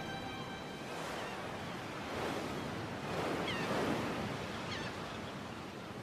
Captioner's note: waves crashing